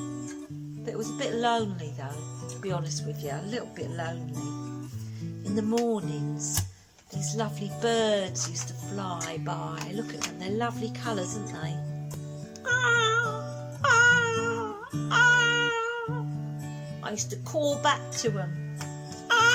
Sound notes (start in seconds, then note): 12.6 sound of a parrot's call